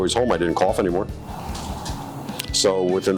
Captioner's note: chair rustling